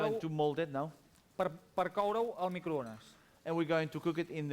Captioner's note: non-english speech